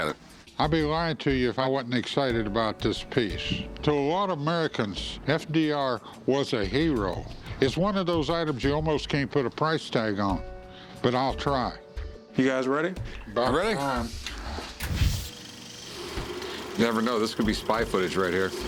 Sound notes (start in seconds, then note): 13.8 projector sound